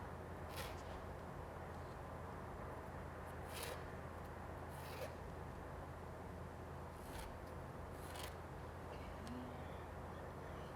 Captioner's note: pencil scratching